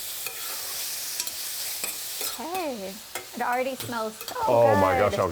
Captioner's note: sizzling